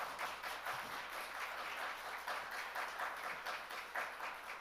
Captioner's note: audience applauding